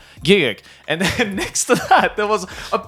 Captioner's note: chuckles